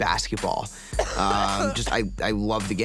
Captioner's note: Tana coughing